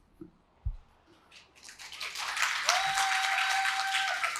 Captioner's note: applause